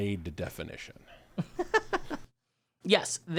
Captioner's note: laughs